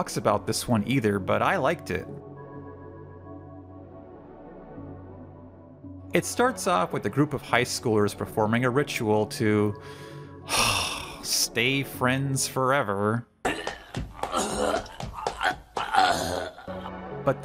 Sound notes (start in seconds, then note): 10.4 disgusted sigh; 13.4 vomiting